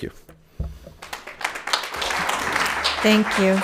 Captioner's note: audience applauding